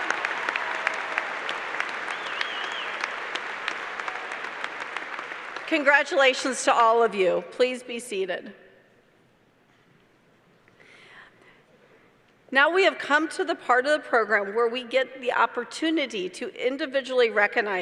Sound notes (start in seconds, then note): 0.0 applause